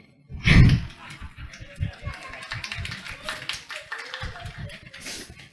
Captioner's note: applause